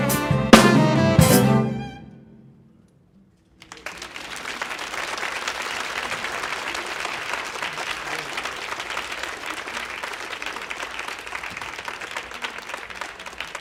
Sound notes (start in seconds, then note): 3.6 audience applauding; 3.7 audience cheering